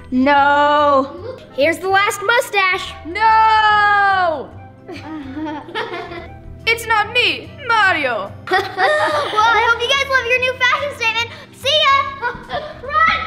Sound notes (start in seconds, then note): 4.9 laughs; 8.4 laugh